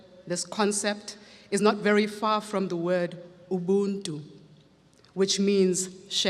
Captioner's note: speaks foreign language